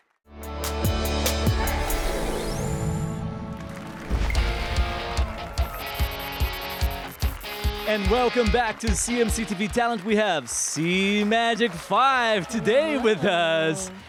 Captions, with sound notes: [APPLAUSE AND CHEERS] And welcome back to CMC TV talent. We have CMAGIC5 today with us,